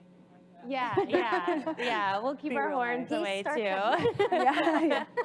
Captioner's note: laughs